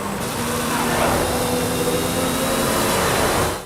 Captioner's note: car engine roars